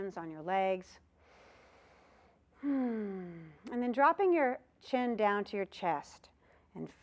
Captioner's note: sighing sound